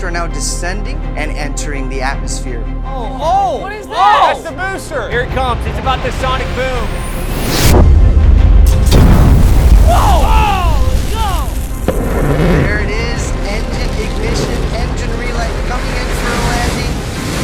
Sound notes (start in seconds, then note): 8.7 boom; 8.8 ignition